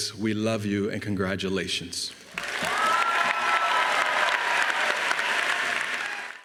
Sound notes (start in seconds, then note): 2.3 audience cheering